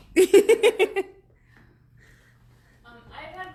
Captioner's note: laughs